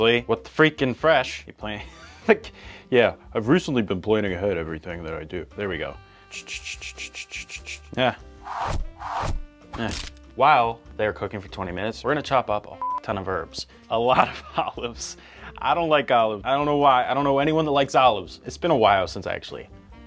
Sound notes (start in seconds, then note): 6.2 upbeat music; 6.3 whistling; 19.8 upbeat music